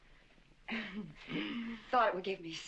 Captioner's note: chuckling